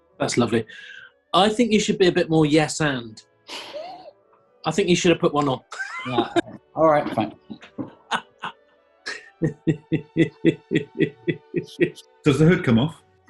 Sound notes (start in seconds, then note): 3.6 sniggering; 5.3 chuckling; 9.0 chuckling; 9.1 laughing